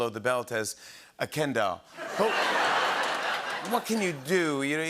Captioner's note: laughter and applause